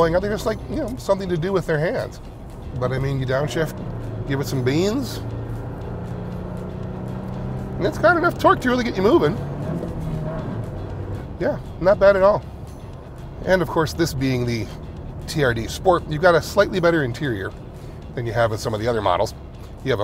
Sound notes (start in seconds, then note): 6.2 engine revving